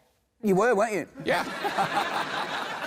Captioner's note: laughter